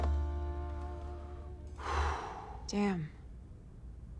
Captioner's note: breaths deeply